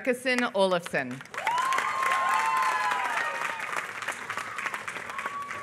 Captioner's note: applause